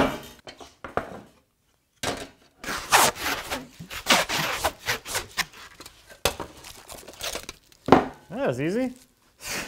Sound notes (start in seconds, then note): 2.7 cellophane unraveling; 7.7 cellophane thumping